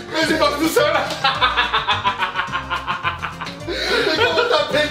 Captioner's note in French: Fou rire